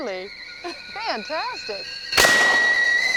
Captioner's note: gunshot; tea kettle whistling